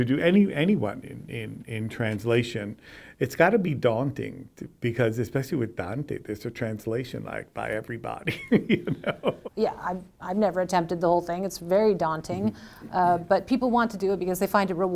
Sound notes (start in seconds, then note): 8.2 laughs